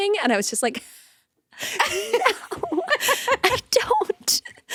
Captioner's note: both chuckling